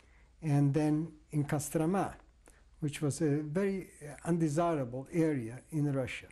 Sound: non-english

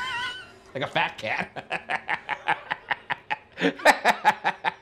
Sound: laughing

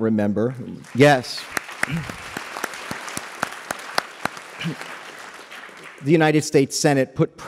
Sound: applause

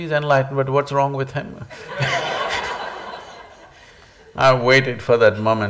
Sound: laughter

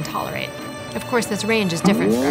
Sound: spring bounces

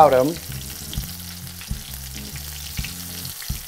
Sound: oil sizzling

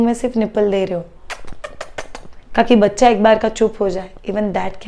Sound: suckling sound

